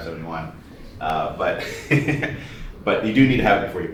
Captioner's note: laughter